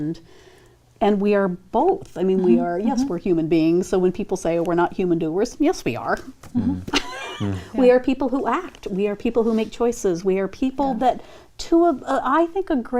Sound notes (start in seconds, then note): 6.6 laughs